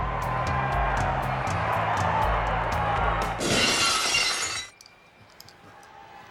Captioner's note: upbeat music continues; audience cheers